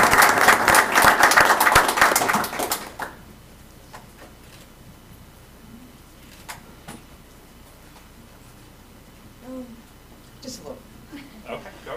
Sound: applause

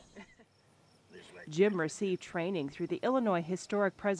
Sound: laughing

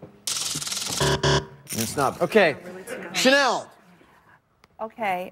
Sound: buzzer

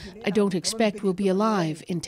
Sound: speaking alternate language

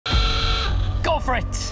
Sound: klaxon

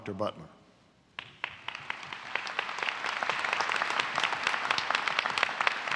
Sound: applause

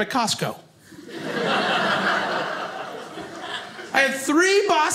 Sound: audience laughing

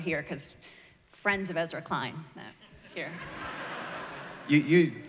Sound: laughter

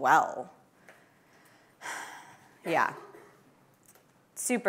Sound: sighs deeply

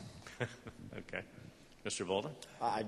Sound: chuckles

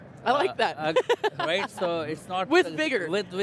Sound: laughs

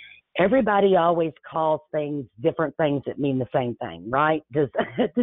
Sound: chuckles

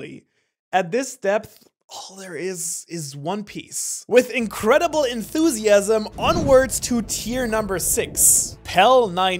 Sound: with incredible enthusiasm

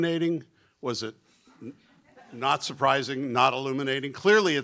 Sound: laughter

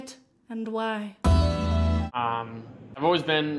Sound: quiz show noise

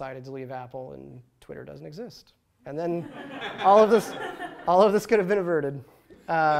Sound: laughter

